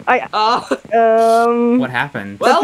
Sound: laughs

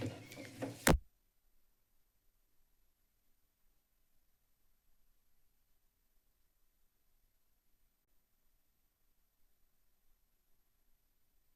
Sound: silence

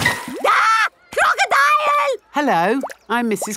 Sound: screams

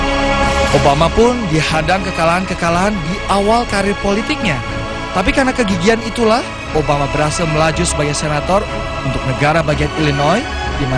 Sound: non-english speech

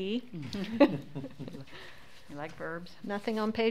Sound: laughs

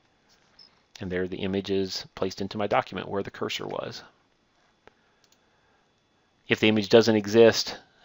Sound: click

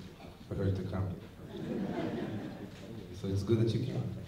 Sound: laughter

